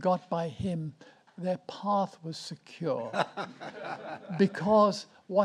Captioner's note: audience laughs